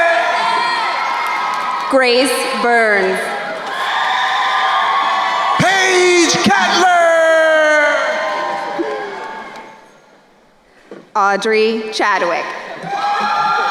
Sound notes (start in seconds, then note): 0.2 crowd cheering; 3.8 crowd cheering and applauding; 12.3 crowd cheering